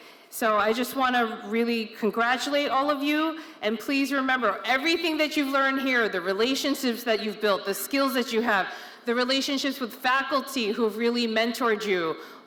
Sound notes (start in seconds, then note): none